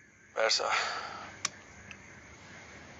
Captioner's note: clicks